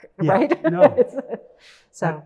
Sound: laughs

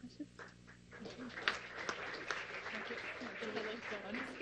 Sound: applause

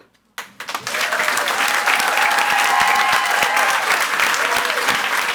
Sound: audience applauds and cheers

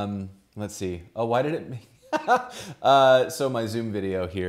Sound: laughs

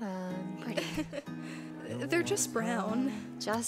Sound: chuckle

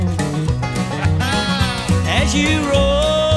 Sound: laughs

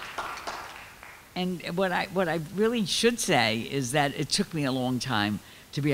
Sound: clapping

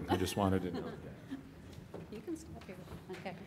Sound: laughter

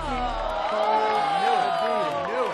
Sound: crowd boos

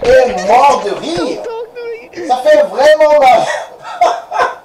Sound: laughs

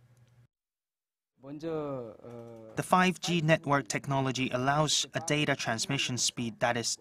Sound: Korean

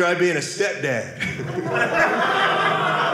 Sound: audience laughing

